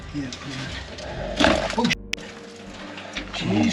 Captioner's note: beep